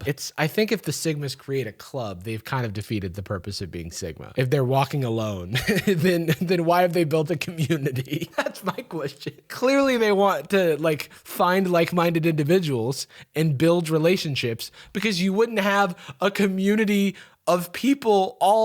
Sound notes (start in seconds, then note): 5.5 laughs; 7.3 laughing